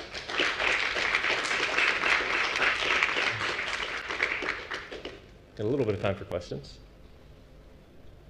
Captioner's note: applause